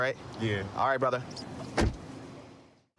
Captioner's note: door shuts